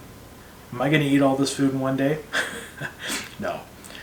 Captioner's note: laughs